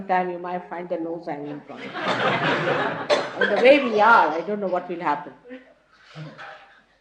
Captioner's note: laughter